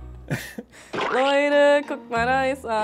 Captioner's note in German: Pflatsch